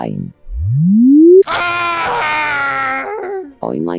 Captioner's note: Kyrylo screaming